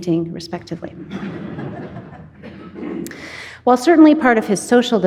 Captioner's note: audience laughing